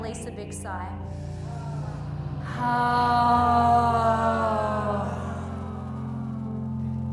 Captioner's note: group inhales and exhales slowly